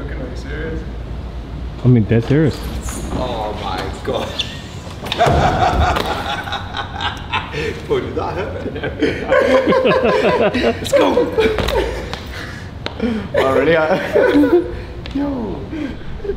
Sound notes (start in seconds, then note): 5.0 laughing